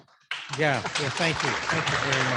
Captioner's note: audience applauding